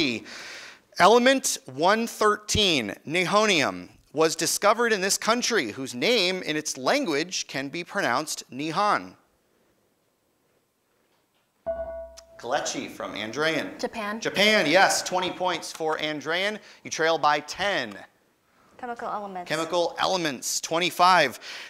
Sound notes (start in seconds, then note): 11.6 ding